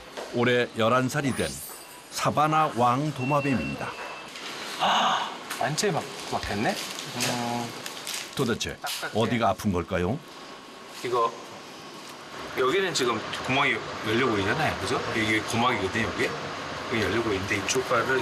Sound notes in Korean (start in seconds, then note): 4.8 하아~